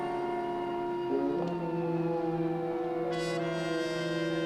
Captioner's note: approaching police sirens